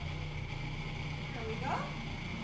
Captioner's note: blender grinds